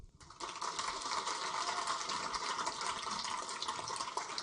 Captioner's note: audience applaud